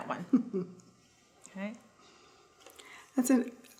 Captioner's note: chuckling